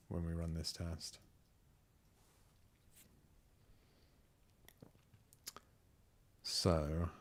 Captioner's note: silence